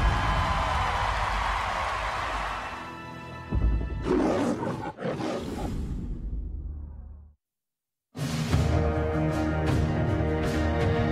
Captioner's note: cheers and applause